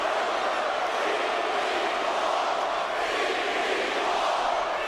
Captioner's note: crowd chanting